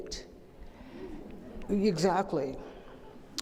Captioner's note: gasps from the audience